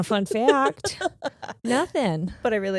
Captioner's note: laughing